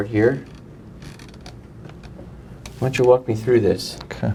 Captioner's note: creaking